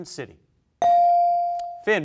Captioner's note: bell rings